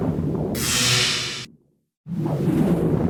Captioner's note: orb buzzing; orb whooshing